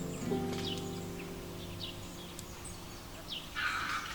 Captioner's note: birds chirping